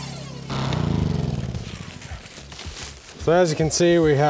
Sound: generator powers off

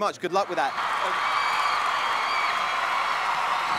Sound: applause

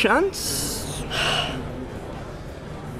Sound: sighs

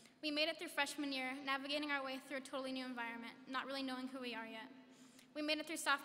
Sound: none

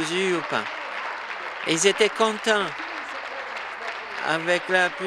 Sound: applause

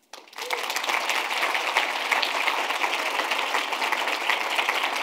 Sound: attendees clapping

